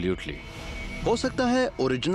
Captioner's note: narrating